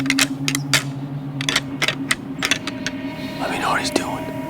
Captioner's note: antlers rattling; suspenseful music